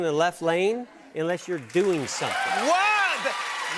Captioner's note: cheers and applause